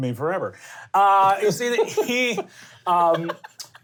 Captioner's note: laughs